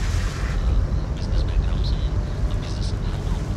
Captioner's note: Radio playing